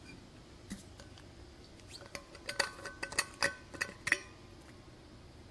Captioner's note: metal clanking